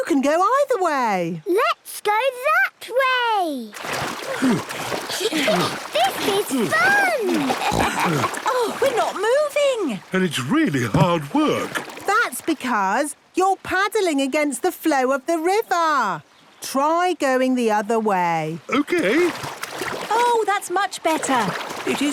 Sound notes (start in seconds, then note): 5.0 snorts, giggles; 5.1 panting